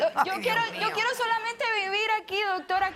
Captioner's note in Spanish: Risas